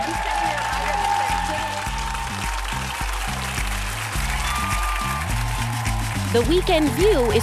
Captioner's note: cheers and applause